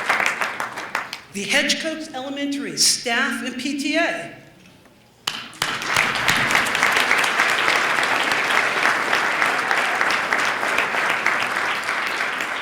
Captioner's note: applause